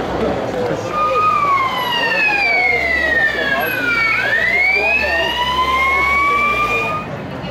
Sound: loud Police siren

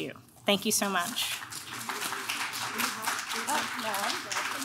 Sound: clapping

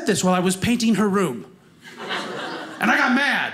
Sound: audience laughing

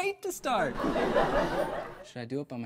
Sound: audience laughs

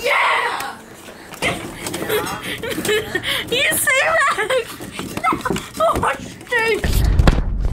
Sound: laughter

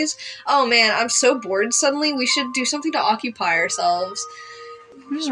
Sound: inhale

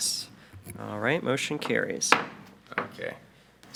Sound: gavel taps

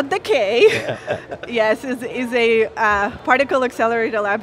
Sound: laughs

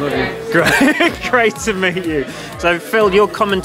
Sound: chuckles

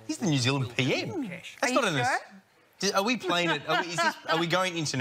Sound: laughs

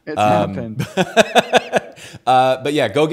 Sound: laughs

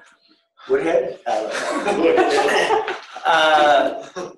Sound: laughing

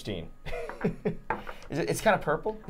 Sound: chuckling

